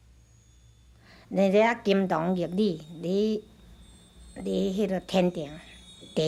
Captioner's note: speaking Taiwanese